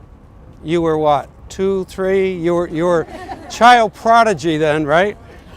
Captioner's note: laughter